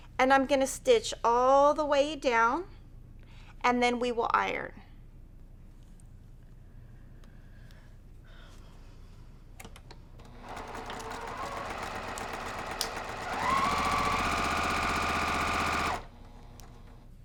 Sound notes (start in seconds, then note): 10.2 sewing machine sound